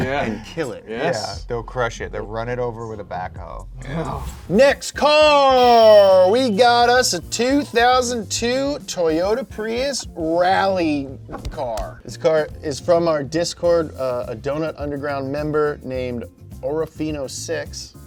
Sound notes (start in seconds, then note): 0.2 chuckles; 3.9 air whooshing; 11.4 clapping